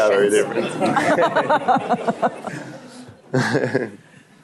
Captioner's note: laughter